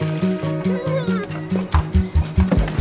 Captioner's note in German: Winseln